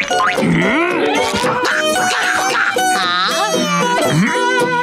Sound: grunting

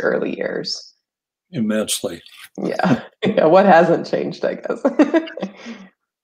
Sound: laughs

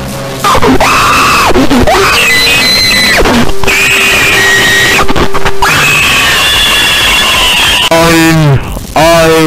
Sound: screaming

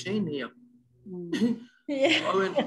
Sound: chuckles

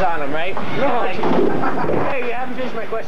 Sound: laughter

